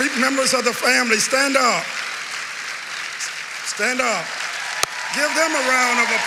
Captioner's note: cheering and applause